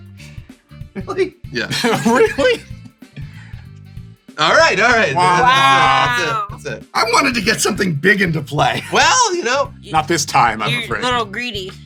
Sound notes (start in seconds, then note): 1.6 laughing; 8.7 laughs